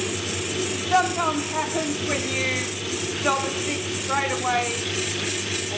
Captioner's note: machine whirring